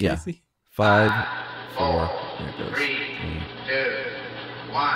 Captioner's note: voiceover